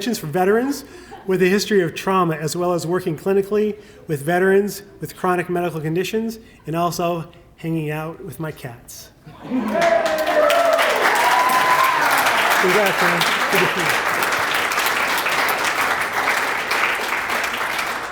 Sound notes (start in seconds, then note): 9.0 applause